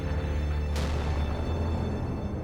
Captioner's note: boom